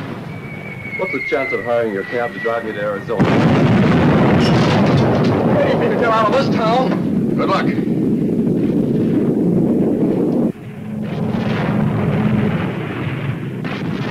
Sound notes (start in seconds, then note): 0.2 missiles whistling; 3.8 explosion booming; 4.8 debris clattering; 10.4 plane engine revving